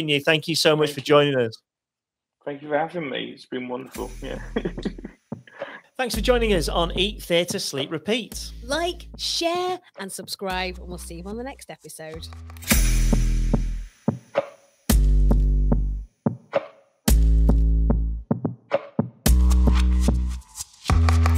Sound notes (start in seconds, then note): 4.3 laughs; 12.7 upbeat music